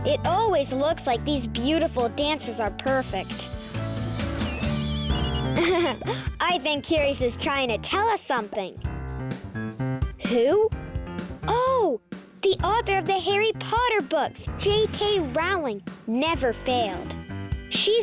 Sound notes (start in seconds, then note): 5.3 laughs